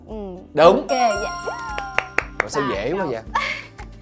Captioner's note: claps